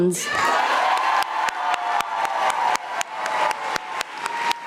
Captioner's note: audience applauding